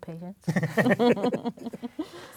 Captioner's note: laughs